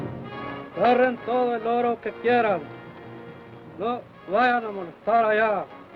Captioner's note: Chief speaks foreign language